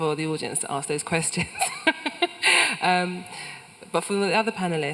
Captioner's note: laughs